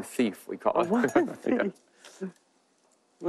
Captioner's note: Julia laughs